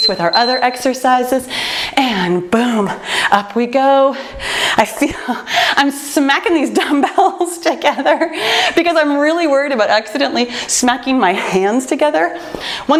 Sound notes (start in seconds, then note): 8.2 laughs